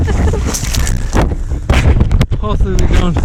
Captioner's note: women laughing